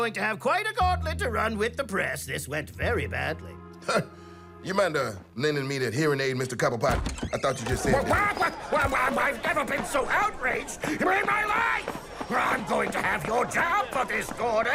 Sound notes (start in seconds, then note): 6.8 door opens; 7.6 agitated squawking